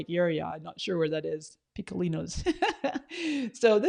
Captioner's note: laughs